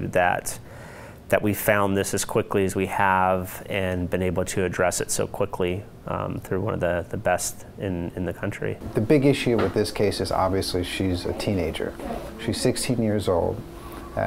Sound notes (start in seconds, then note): none